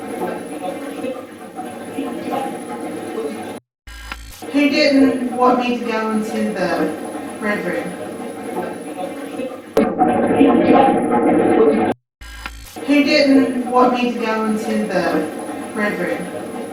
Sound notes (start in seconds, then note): 0.1 static playback transmitting; 4.4 static fizzing; 10.1 loud static playback transmitting